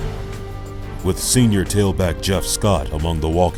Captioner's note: voiceover